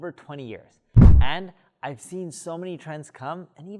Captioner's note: air whooshing